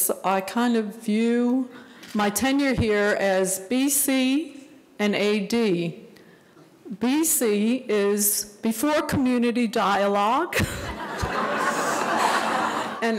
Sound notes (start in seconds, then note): 10.7 audience laughing; 10.7 laughs